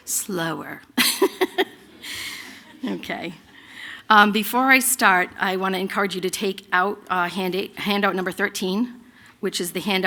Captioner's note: laughter